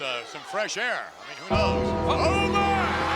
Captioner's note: clock chimes